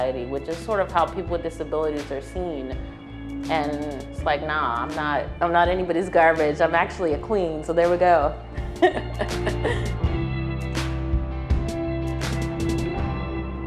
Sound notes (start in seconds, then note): 8.7 laughs